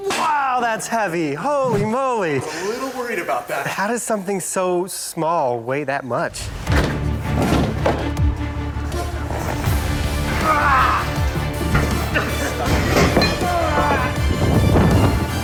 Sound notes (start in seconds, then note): 6.7 exciting music; 9.4 people grunting